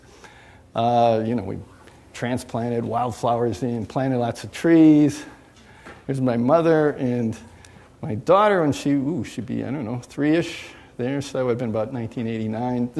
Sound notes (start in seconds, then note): none